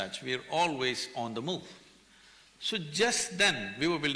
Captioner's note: none